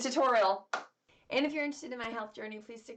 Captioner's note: claps